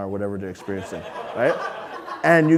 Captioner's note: audience laughing